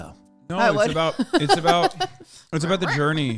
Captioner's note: laughs